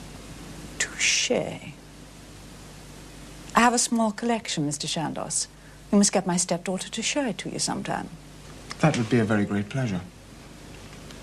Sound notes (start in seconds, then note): none